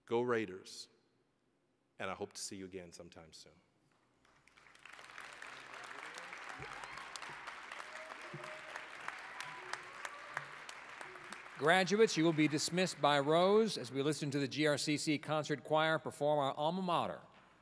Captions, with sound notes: Go Raiders. And I hope to see you again sometime soon. (applause) >> Graduates, you will be dismissed by rows as we listen to the GRCC Concert Choir perform our Alma Mater,